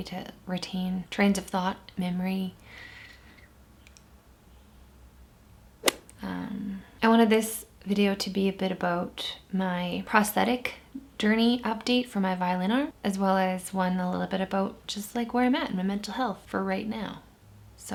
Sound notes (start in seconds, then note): none